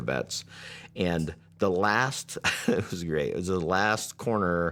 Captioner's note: chuckles